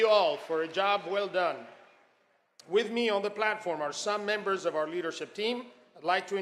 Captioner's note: applause